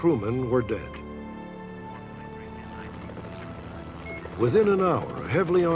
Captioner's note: rotating chopper blades